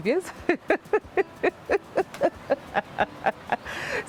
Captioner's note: laughter